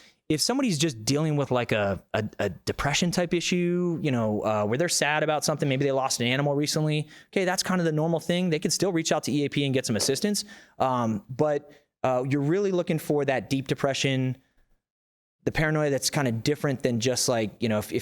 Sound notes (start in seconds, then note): none